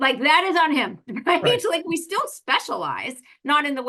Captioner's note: laugh